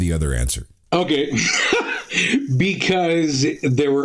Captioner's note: laughing